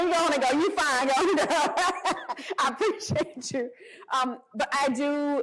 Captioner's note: laughter